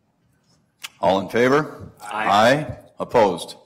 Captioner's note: multiple voices